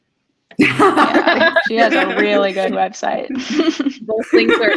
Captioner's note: laugh